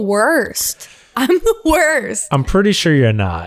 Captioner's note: laughs